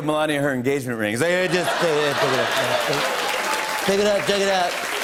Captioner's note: As Trump; applause